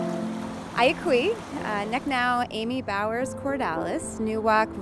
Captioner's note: speaking native language